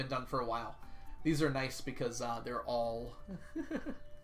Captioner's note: chuckles